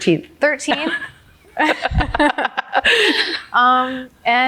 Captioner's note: both laughing